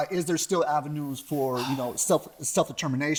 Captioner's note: sighing